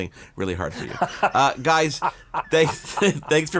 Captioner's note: laughs